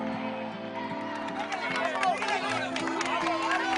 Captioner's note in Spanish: Gritan al unísono; Aplausos